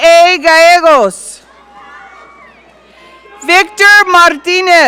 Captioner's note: audience cheering